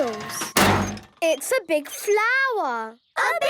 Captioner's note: crane beeping